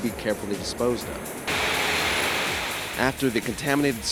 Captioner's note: sounds of rocks being poured into ground